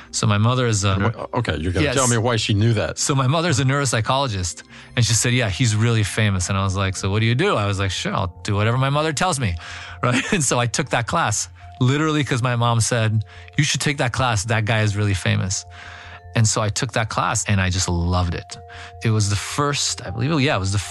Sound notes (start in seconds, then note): 10.0 laugh